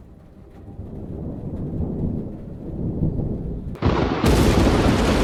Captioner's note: thunder crashing